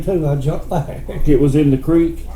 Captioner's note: chuckles